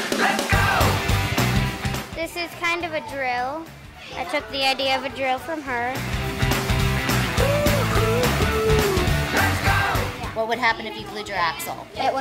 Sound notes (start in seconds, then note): 2.4 voiceover